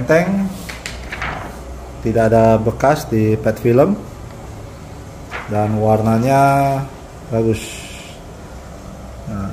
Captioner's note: PET film noise